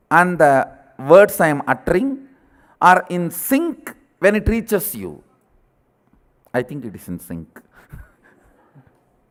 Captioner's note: laughter